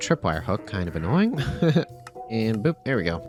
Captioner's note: laughs